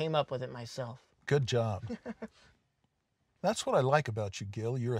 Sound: giggling

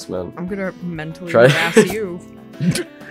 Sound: laughs; snickers

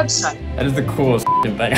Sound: beep

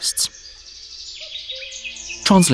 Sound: sounds of nature

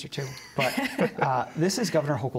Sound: laughter

